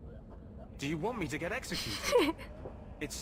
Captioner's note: giggles